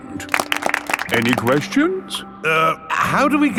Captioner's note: all clapping